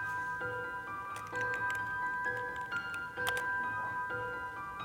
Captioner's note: keys clicking